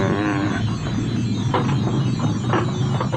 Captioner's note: groans